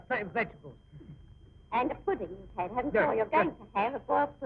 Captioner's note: people chatting